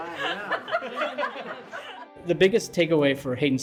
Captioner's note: laughing